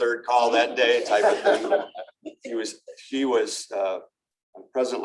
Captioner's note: laughter